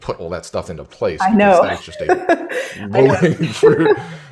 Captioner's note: laughs